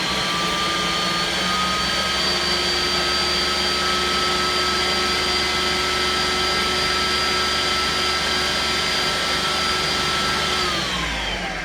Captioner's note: blender whirs